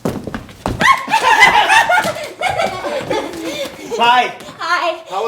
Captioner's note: footsteps thud; yells happily